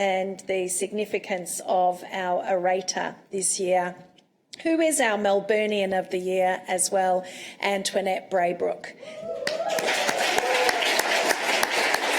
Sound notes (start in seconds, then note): 9.3 clapping